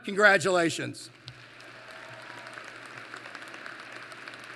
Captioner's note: applause